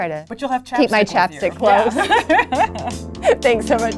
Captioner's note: laughs